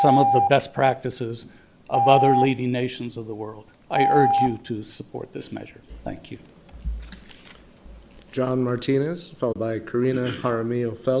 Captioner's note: loud beep